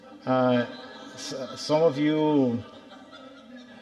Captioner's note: audience laughing